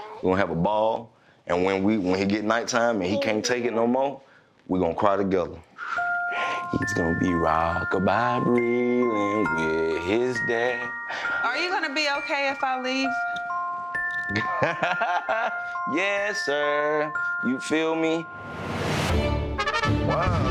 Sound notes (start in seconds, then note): 6.1 music box lullaby music; 14.4 laughs; 16.4 music box lullaby music; 18.4 epic adventurous music